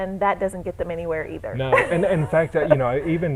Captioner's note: chuckle